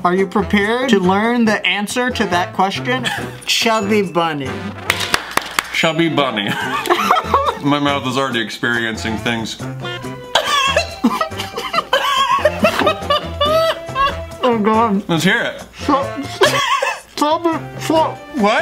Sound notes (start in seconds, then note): 6.4 laughs; 9.8 laughs